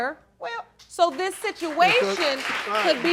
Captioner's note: applause